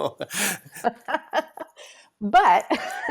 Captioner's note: laughs